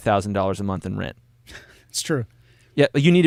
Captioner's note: laughing